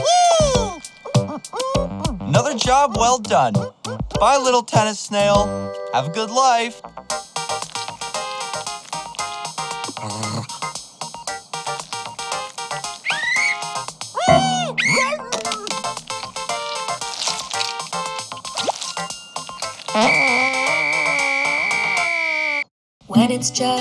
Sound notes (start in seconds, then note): 12.7 whistles; 12.9 screams; 20.1 farts and whistles